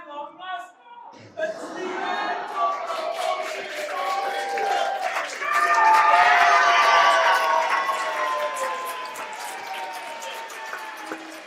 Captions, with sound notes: It’s my long-lost mum! It’s the end of our multistorey carpark dream! [Cheering and audience laughter]